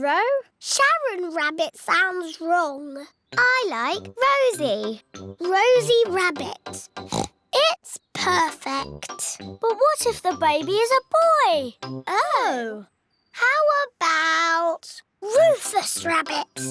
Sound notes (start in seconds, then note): 7.0 oinks